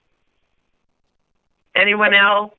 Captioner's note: silence